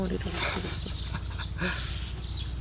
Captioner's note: laughing